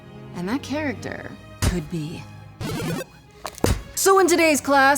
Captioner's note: video game power up noise